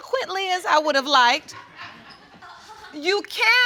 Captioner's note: audience laughs